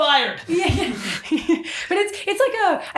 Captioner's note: laughing